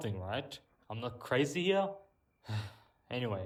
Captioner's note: sigh